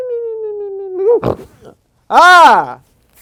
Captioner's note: Shemp-like sleep noises; snort